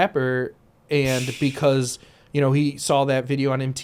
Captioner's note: sighs